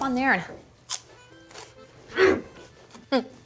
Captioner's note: crunch